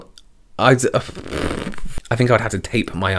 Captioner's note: blows a raspberry